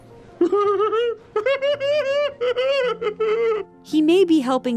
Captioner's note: giggling